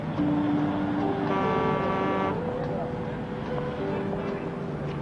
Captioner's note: gentle music; truck horn blaring in distance; gentle music